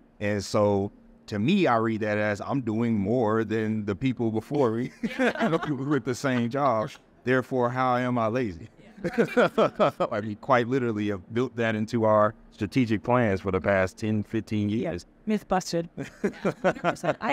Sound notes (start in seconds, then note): 10.6 all laughing